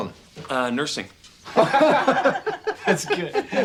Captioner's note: everyone laughing